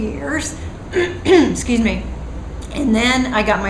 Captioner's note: cough